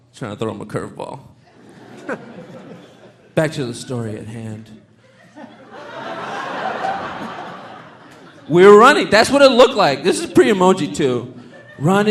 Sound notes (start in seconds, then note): 1.4 audience laughing; 5.0 audience laughing